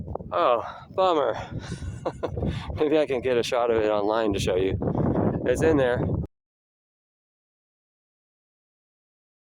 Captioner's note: laugh